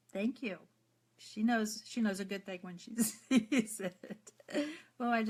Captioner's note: laughs